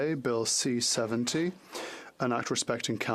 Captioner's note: speaking French